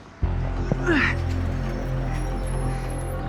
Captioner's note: grunts